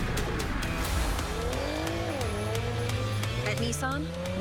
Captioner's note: engine revving